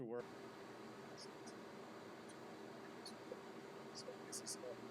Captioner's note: background interference